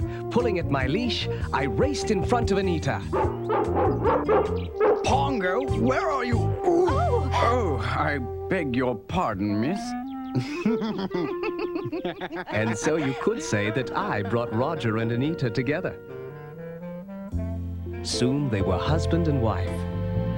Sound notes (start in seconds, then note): 3.1 barking; 10.3 Roger and Anita laugh